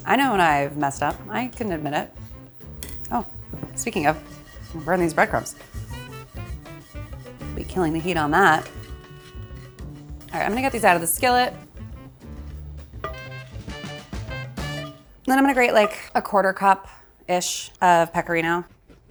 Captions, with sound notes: I know when I've messed up, I can admit it. Oh, speaking of, I'm burning these breadcrumbs. (breadcrumbs rustling) Be killing the heat on that. All right, I'm gonna get these out of the skillet, then I'm gonna grate a quarter cup-ish of Pecorino.